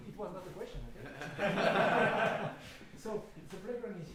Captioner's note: laughing